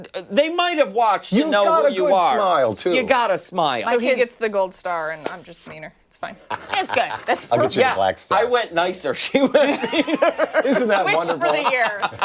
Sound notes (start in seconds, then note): 4.5 laughter